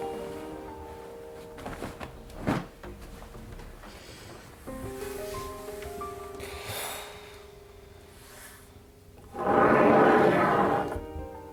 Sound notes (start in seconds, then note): 0.1 piano; 2.1 footsteps; 3.1 shuffling